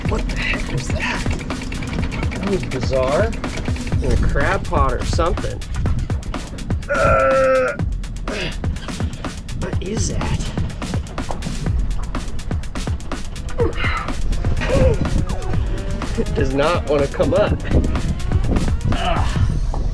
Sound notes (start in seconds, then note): 6.8 grunting; 11.0 upbeat music continues; 18.7 grunts